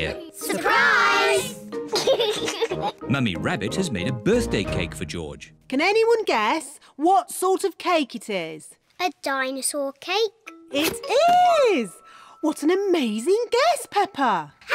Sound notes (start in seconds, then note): 1.9 laughs